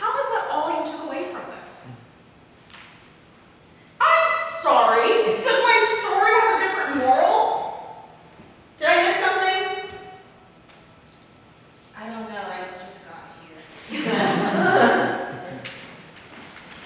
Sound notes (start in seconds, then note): 13.8 audience laughs